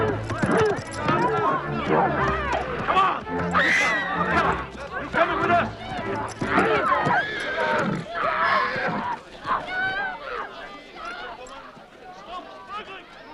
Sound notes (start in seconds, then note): 3.5 villager screams; 7.5 horse neighs; 10.1 townsfolk shouting